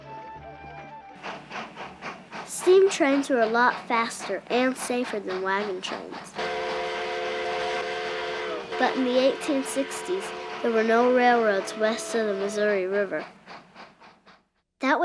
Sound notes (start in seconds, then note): 1.5 train chugging; 6.3 train whistling